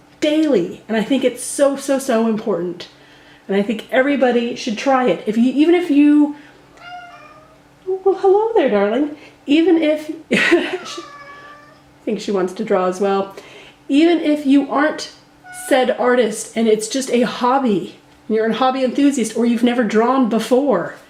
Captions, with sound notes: and I think it's so so so important and I think everybody should try it if you even if you.... Hello there darling (cat meowed) even if I think she wants to draw as well (cat meowed again) even if you aren't said artist and it's just a hobby. You're a hobby enthusiast or you've never drawn before and